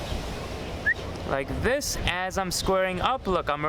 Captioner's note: whistles